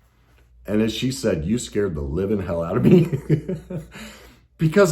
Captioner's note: laughs